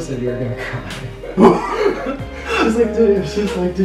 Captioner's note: laughs